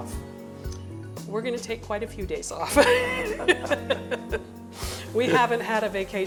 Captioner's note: laughs